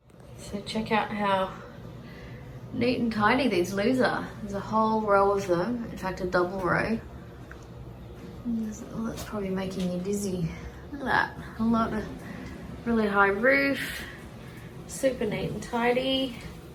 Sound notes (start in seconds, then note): none